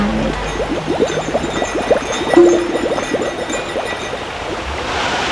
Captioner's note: popping, bubbling and jingling noise; rushing water, distant voices